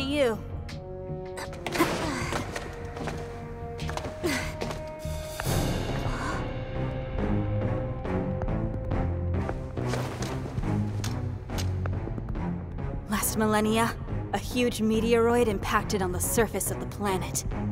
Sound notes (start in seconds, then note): 6.0 gasps